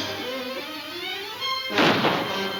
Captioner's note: gun firing